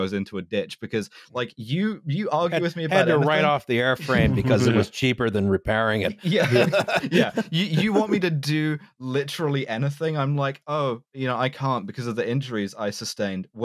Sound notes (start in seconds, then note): 6.1 laughter